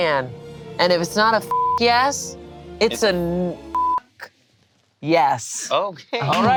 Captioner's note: beep